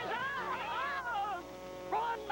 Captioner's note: yelling